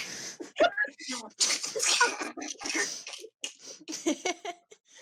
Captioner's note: everyone trying not to laugh